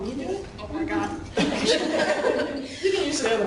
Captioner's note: laughing